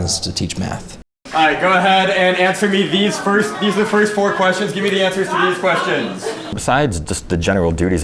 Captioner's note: classroom noise